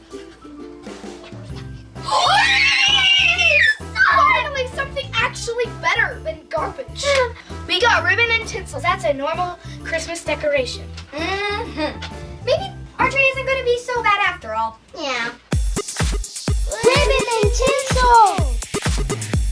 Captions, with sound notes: [Girls cheering] Finally! Something actually better than garbage. We got ribbon and tinsels; that's a normal Christmas decoration. Mm hmm. Maybe our tree isn't going to be so bad after all. Yeah. Ribbon and tinsel.